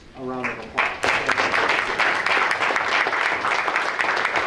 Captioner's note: applause